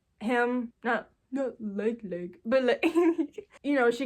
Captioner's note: giggles